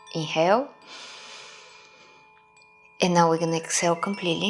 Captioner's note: inhaling